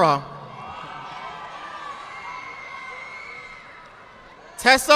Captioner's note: audience applauding